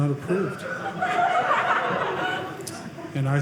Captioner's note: audience laughing